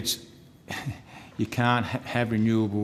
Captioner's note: chuckles